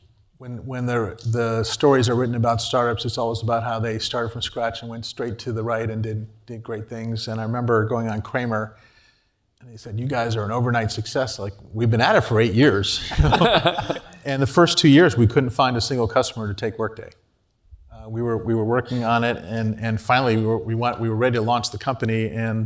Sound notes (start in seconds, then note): 13.0 laugh